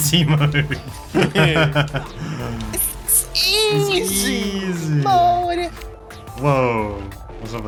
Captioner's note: laughs